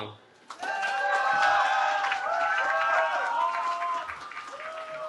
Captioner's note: cheering